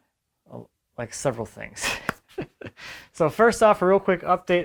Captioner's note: laughs